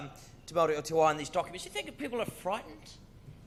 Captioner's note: speaks in foreign language